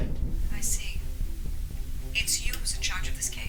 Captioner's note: Angela's Voice Through Phone